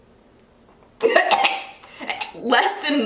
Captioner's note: gagging